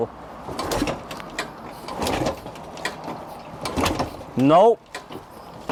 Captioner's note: mechanical noise